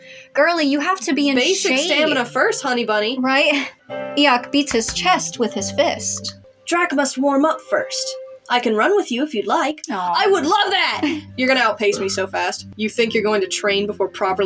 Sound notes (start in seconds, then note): 1.5 chuckle; 10.9 chuckle